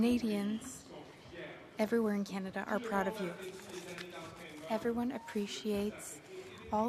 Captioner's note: speaking French